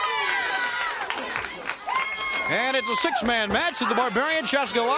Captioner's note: crowd cheering